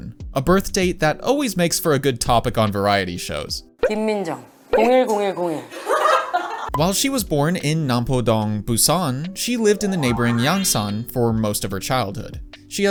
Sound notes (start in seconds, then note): 5.6 laughter